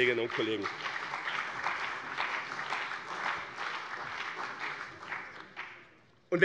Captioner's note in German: Beifall bei dem BÜNDNIS 90/DIE GRÜNEN und der CDU